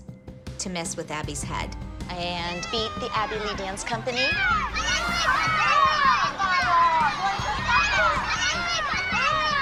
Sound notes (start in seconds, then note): 4.3 indistinct shouting